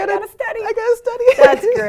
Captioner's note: laugh